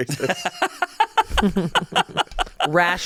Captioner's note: hosts laughing